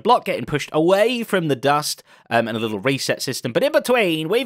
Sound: none

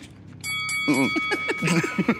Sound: laughs; bell dings; both laugh

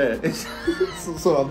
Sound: both laughing

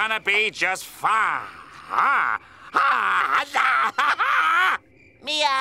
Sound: shrieking

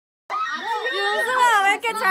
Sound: screaming

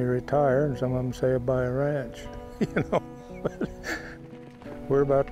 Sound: laughs

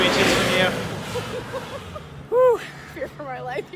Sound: laughter

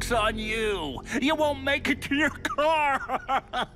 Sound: laughs

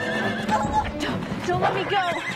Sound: wolf whines

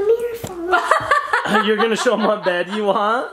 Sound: laughter

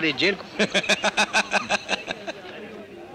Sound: laughs

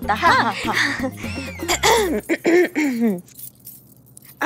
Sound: clearing throat

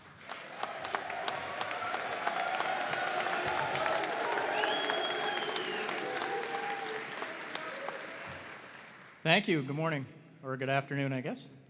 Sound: applause

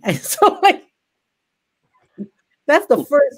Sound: laughs

